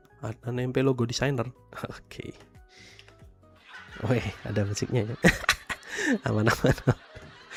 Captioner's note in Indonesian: tertawa